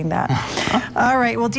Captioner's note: laughing